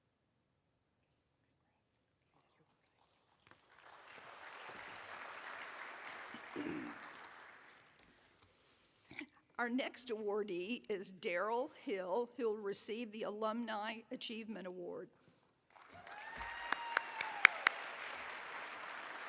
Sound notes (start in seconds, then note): 10.0 applause